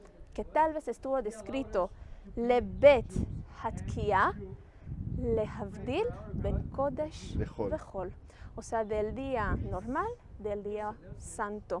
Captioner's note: Hebrew